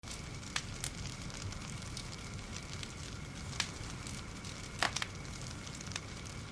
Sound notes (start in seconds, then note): 0.0 fire crackles